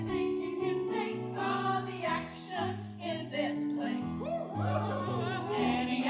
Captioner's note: pirates cheering